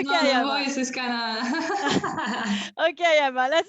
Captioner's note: laughs